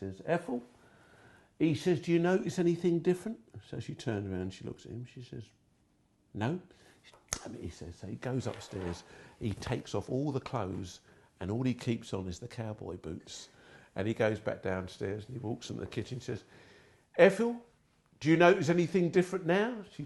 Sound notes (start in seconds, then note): 7.2 fingers clicking